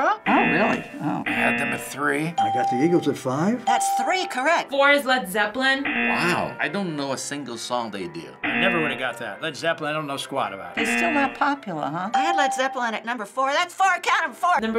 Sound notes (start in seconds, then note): 0.2 buzzer; 3.6 buzzer; 3.6 ding